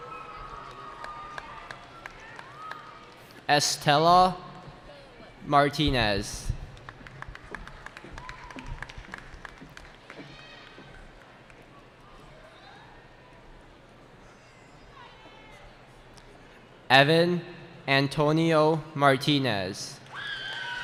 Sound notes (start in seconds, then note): 0.0 cheering; 6.7 applause